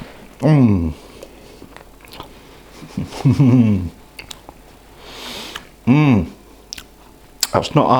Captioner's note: appreciative slurping and moaning